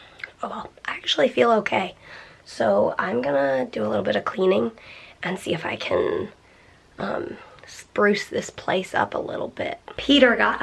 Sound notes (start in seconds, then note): none